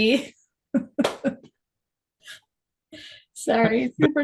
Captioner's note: chuckles